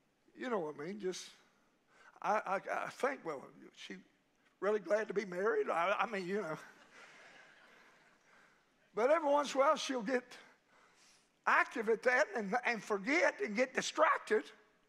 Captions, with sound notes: You know what I mean? Just, I think, well, she really glad to be married. I mean, you know, (congregation laughing) But every once in a while she'll get active at that and forget and get distracted